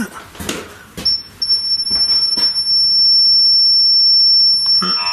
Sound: metre beeps

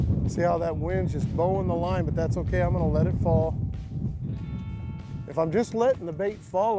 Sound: none

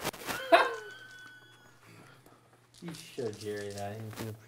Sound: laughing

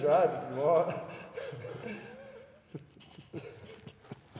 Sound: laugh

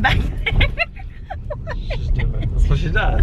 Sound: laughs

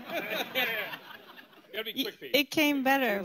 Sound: laughter

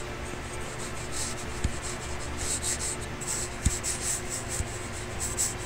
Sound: computer mouse scraping

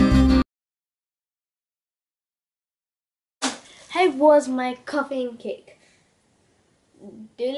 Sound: Spanish

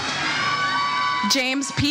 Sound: audience cheers

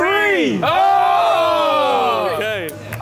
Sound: cheering

